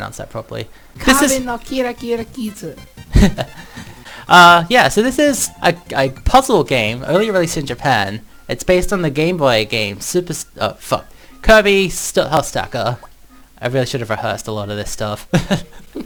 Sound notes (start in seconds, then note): 5.3 stutters; 15.5 laughs